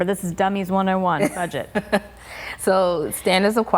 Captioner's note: laughing